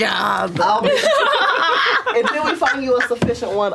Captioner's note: laughter